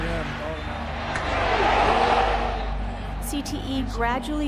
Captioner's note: crowd groaning